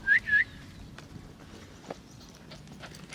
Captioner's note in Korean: 휘파람 소리